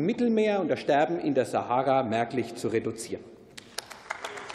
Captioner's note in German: Beifall